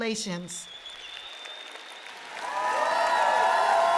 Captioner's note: cheering and applause